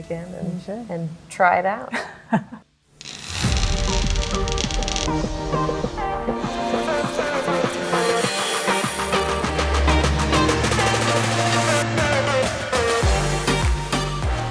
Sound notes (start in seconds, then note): 3.0 upbeat music; 3.0 welder scorching; 11.2 upbeat music continues